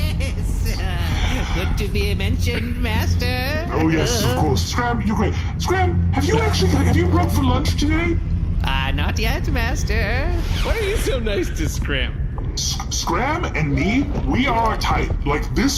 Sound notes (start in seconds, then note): 9.4 sheathing Dinglehopper and laughing